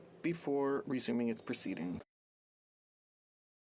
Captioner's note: speaking French